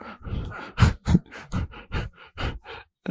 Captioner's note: laughs